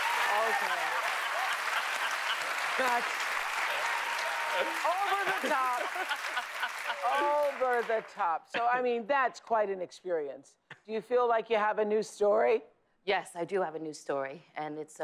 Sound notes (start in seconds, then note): 0.0 cheers and applause; 0.5 laughter